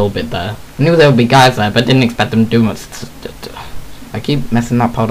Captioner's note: sigh